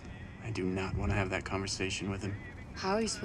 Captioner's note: scoffs